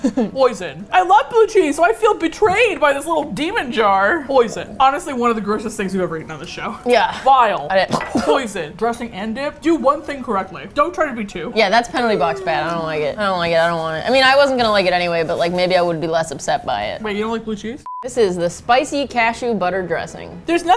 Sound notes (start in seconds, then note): 0.0 laughs; 7.6 gags